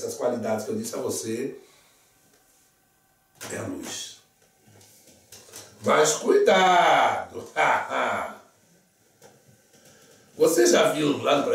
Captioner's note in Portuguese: lacht